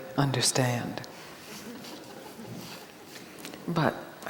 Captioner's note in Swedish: publiken fnissar